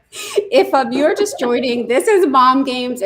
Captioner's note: laughs